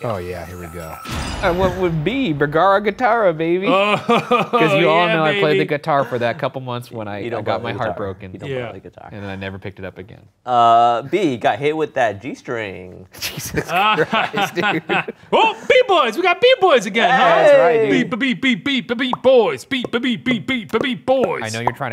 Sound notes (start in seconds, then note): 3.7 laughs; 13.2 laughs